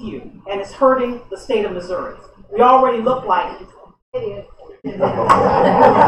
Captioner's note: laughter